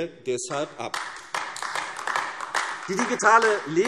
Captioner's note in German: Beifall AfD